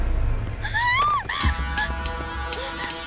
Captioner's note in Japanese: 理恵の悲鳴